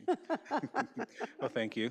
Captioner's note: laughing